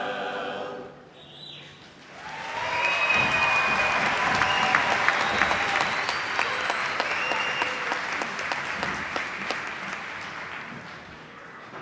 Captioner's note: applause